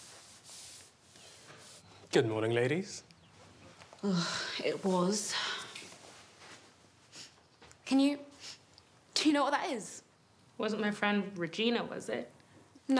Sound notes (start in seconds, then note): 7.1 sniffing